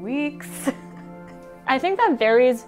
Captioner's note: laughing